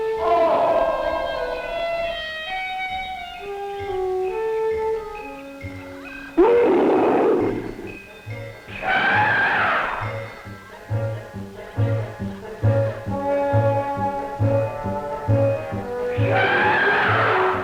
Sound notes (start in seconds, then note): 0.1 shriek; 7.2 cawing; 10.2 roaring